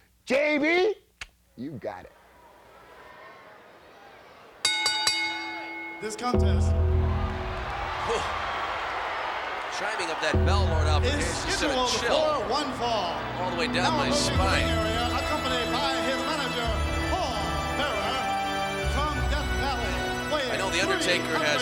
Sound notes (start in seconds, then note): 4.6 bell rings; 7.2 gong rings